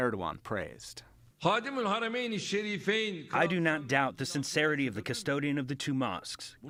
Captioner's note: through translator